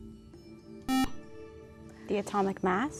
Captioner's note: buzzer